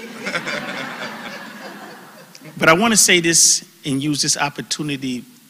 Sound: laugh

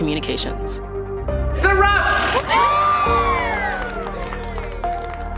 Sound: cheering

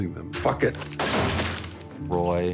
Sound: gunshot

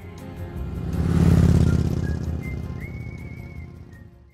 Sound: motorbike roaring

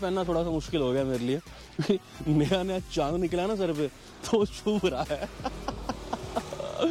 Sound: laughs

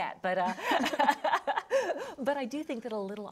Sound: both laughing

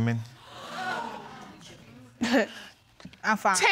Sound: audience exclaiming; chuckles

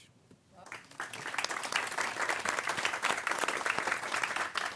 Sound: applause

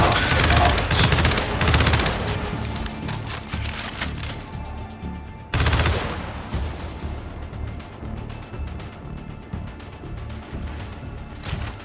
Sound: gunfire; suspenseful music

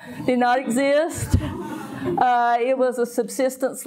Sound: audience laughing

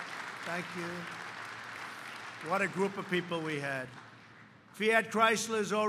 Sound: applause

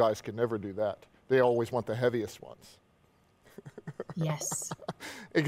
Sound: laughs

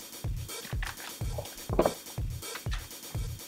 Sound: handle turning

